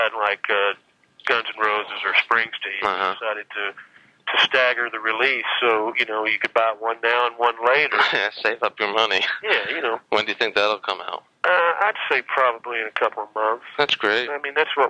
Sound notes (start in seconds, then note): 7.7 laughs